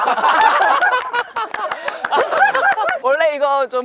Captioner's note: claps